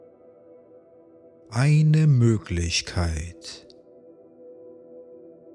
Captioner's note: german